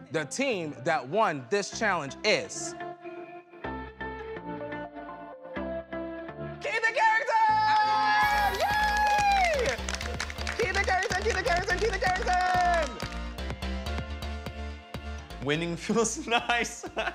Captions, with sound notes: The team that won this challenge is... Keith and Carrington! [cheering] Keith and Carrington, Keith and Carrington, Keith and Carrington! Winning feels nice.